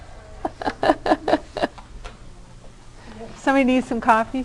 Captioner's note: laughter